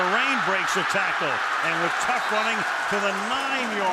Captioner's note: pa announcement